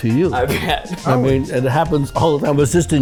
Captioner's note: laughs